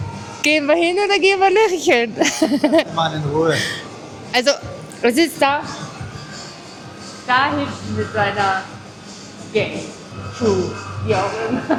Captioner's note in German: gelächter